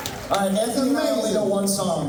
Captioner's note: cheers